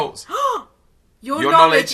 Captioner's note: gasps